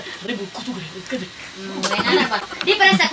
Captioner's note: imitating japanese way of speaking